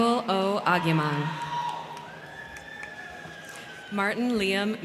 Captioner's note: crowd cheering; crowd clapping